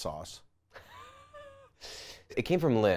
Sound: laughs

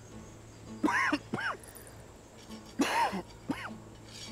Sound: Öksürme sesi

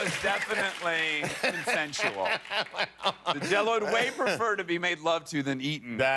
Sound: applause

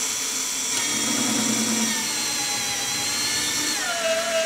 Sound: whirring

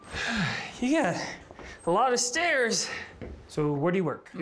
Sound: groans

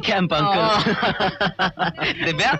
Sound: laughing

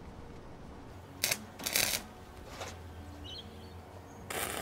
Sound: welder buzzing

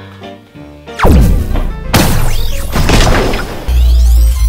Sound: laser fires

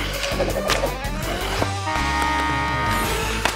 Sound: buzzer sounding

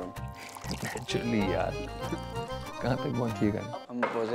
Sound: pouring drink

